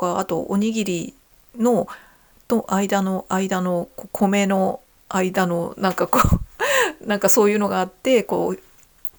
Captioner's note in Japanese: 笑い